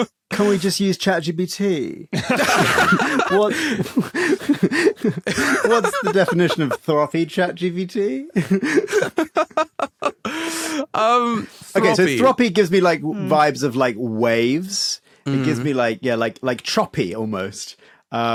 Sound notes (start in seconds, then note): 2.1 guys laughing; 8.4 giggle